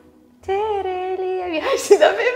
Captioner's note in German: Sie summt